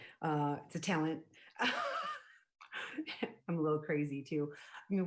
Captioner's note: laughs